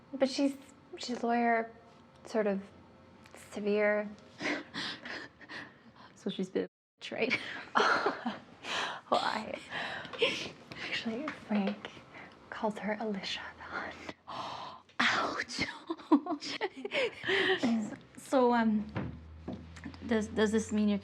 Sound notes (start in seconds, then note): 3.9 both laughing; 7.7 both laughing; 16.0 both laughing